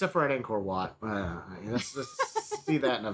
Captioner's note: laughing